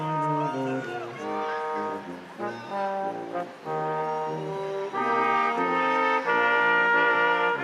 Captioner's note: instrumental music continues; crowd applauding